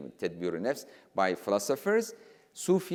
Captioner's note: speaking in foreign language